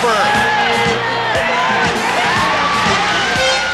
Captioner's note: crowd cheering